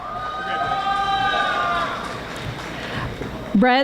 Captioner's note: audience applauding